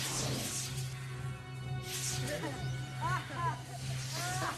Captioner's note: laughter